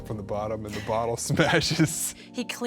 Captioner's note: chuckling